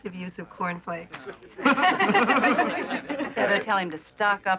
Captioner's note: laughing